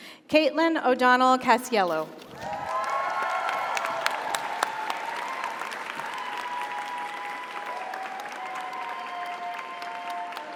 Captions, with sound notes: Caitlin O'Donnell Casiello. (audience applauds) (audience cheers)